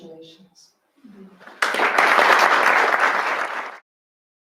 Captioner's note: applause